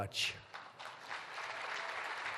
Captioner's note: applause